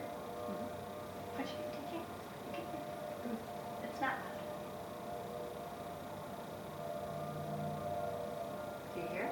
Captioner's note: siren